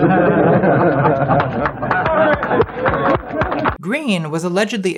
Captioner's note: people clapping